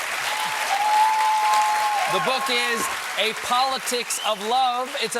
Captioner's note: cheers and applause